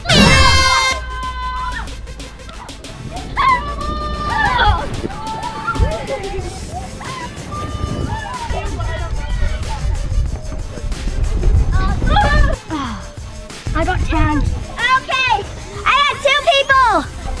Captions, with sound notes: Go! [Fun shouting and laughter] Uhh. I got tagged. Okay. I have two people.